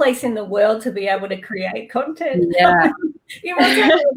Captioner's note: chuckles